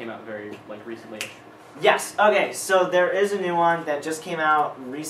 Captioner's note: snapping